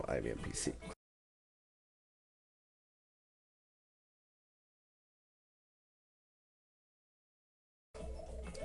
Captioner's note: silence